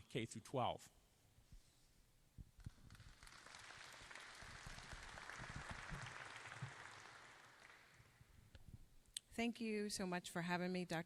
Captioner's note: applause